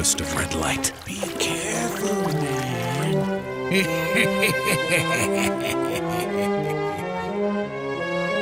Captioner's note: evil laugh